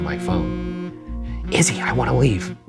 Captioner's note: phone buzzing